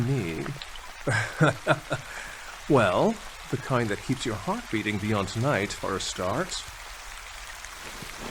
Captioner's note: laugh